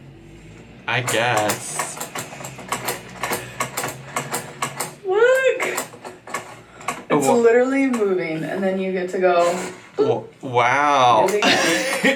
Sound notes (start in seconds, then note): 1.1 typing sounds; 11.4 laughs